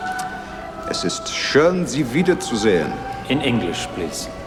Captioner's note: speaking foreign language